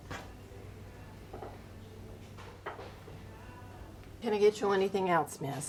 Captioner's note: dish clinking